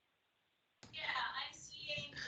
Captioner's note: background talking